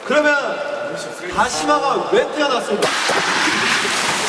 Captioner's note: rubbing